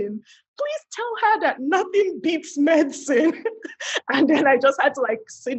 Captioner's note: laughs